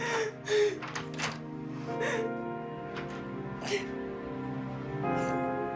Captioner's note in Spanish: Sollozos